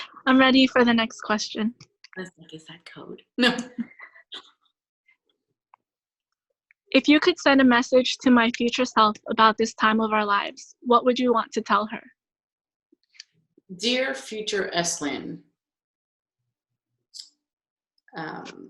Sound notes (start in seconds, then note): 3.4 laughing